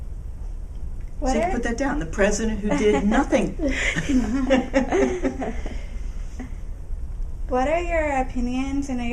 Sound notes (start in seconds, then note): 3.7 laughs